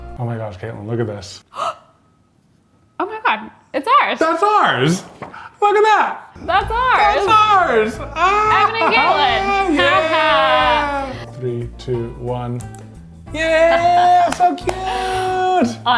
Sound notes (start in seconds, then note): 1.8 gasping; 12.6 lights clicking